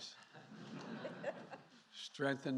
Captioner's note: laughter